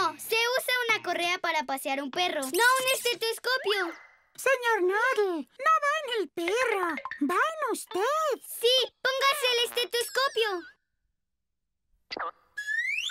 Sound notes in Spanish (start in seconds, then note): none